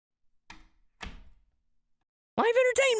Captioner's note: door shuts